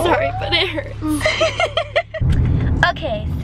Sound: laughter

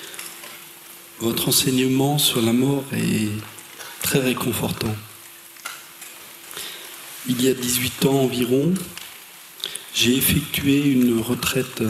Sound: french

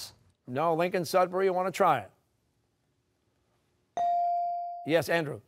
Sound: none

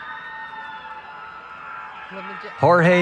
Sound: cheering

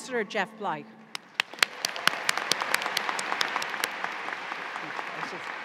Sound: audience applauding

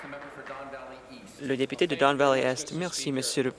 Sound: applause

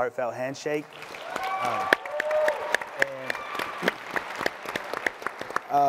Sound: audience clapping and cheering

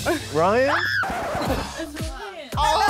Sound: screams; record scratches

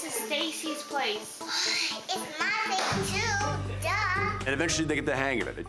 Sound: sighs

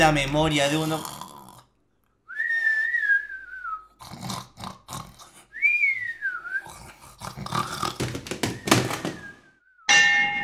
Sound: snorings

